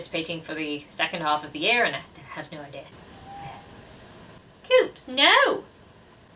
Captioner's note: cat meowing loudly